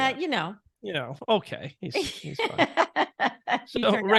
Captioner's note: laughing